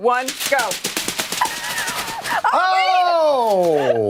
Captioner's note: laughter